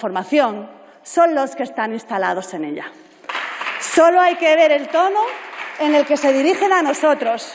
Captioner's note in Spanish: Aplausos